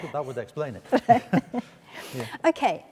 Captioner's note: both chuckle